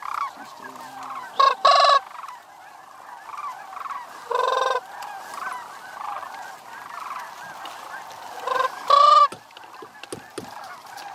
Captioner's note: crane calls